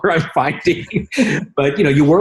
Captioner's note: laughing